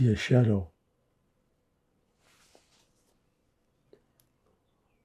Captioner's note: pauses 4 seconds